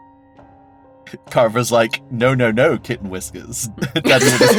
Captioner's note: laughs